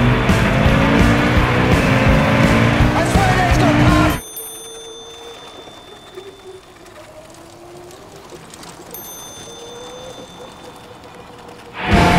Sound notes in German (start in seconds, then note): 4.0 fahrradklingel